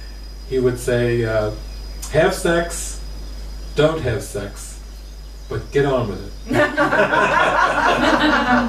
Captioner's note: laughs